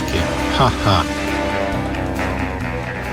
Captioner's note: ha-ha